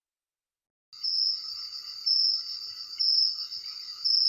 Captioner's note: crickets chirping